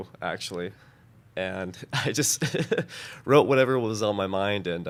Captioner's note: chuckling